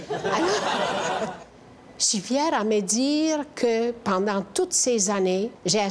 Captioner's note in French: rires